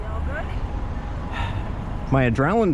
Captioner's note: sigh